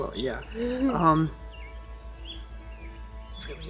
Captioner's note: birds chirping